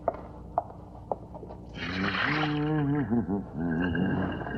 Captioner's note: humming